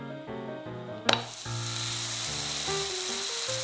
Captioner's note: cooking sound